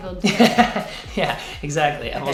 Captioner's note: laughs